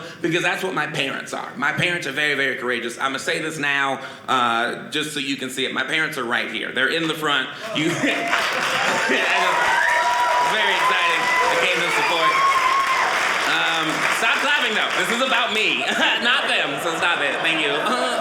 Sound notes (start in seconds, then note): 8.4 audience applauding; 12.9 audience cheering